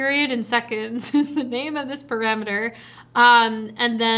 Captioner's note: chuckles